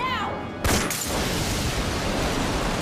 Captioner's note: gunshot booming; water rumbling; rapid gunshots popping